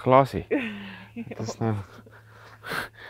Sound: laughing

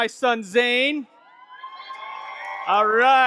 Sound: audience clapping and cheering

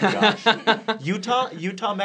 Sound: laughing

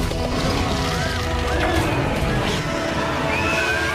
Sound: people screaming

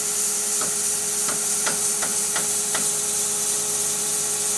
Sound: plank tapping

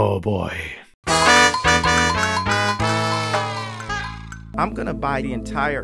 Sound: Mario Sunshine Death Sound

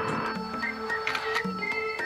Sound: camera shutter

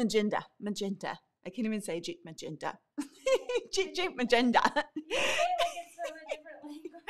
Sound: laughing

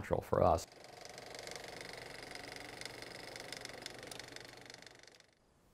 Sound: projector whirl

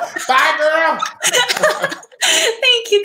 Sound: laughing

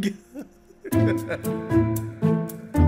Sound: laughs

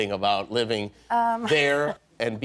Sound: laughter

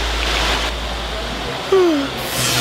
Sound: yawns; electric zapping

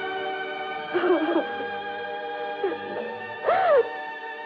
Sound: crying

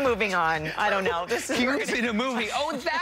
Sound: laughter

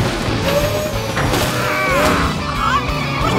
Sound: grunting

